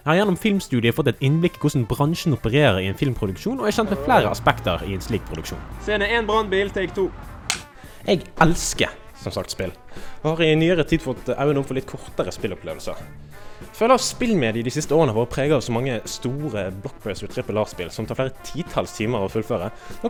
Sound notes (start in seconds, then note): 6.6 firetruck; 7.4 slam